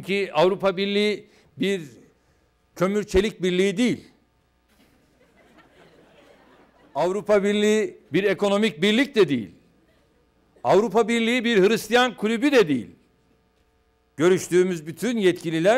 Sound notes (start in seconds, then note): 2.1 non-english speech; 4.8 laughter; 6.3 non-english speech